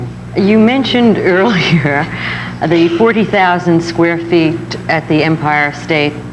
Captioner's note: laughs